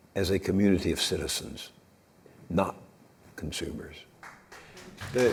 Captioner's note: audience applause